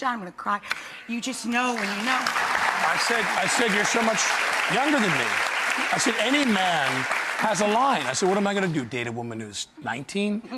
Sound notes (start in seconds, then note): 2.2 audience applauds